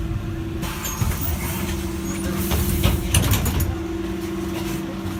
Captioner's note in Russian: открытие дверей